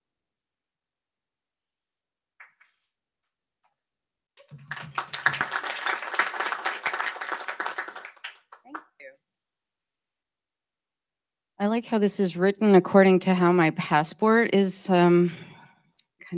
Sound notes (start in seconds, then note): 4.4 applause